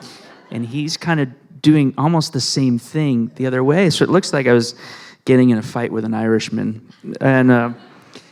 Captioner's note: laughter